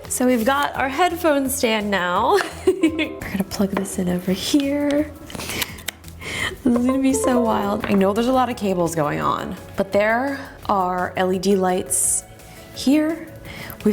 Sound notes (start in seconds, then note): 2.7 giggles; 6.9 laptop chimes